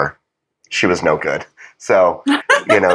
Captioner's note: laugh